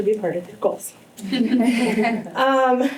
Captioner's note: chuckling